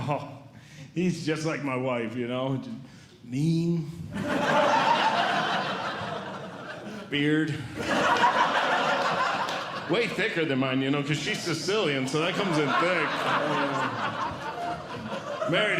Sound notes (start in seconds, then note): 4.1 audience Laughing